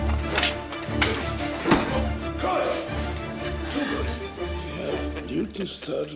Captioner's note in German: Grunzen